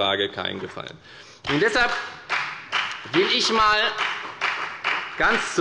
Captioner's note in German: Beifall bei der FDP